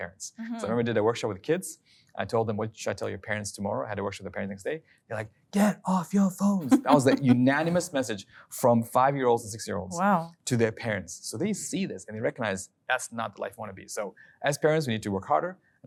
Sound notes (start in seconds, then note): 6.6 laughing